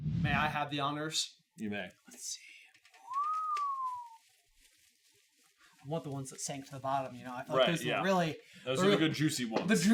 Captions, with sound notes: May I have the honors? You may. Let's see. [impressed whistle] I want the ones that sank to the bottom, you know? Right, yeah. I feel like those are the really- Those are the good juicy ones.